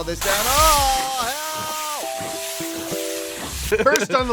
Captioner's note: transparent man screams